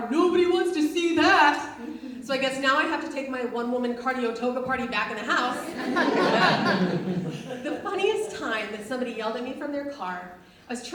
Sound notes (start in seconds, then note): 5.5 audience laughs